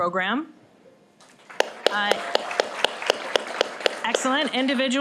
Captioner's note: applause